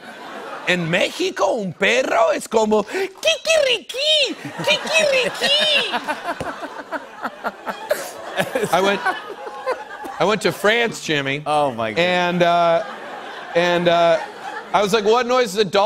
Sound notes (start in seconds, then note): 5.9 laughter